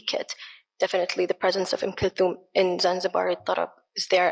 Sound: speaks in foreign language

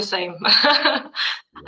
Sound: laughing

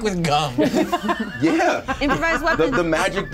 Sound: co-hosts laughing

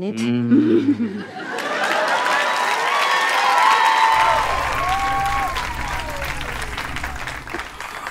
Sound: cheering

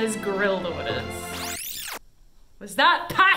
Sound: record scratch

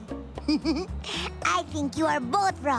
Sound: giggling

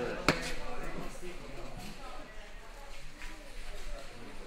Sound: feet slamming

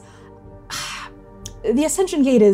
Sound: empathetic wincing

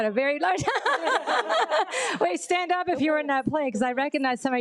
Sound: laughs

